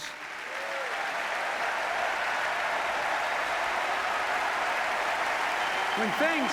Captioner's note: applause